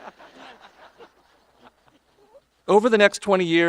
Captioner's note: audience laughing